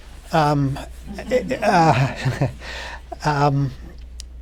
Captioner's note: laughter